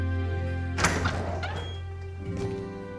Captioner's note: door opens